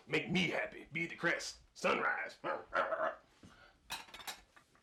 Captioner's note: barkin'; barks